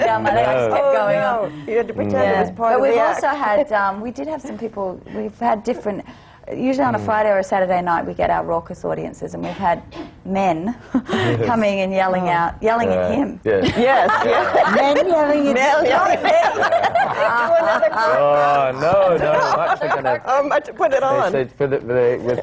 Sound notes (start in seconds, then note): 11.0 laughs; 13.6 laughter; 19.2 laughter